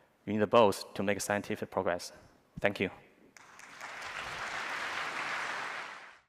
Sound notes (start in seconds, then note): 3.4 applause